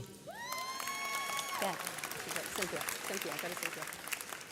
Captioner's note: audience cheers